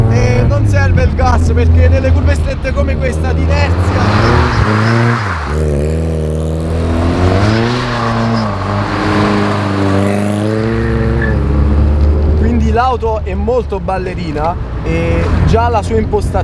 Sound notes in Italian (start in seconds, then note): 4.4 auto in sovrasterzo e ruote strillano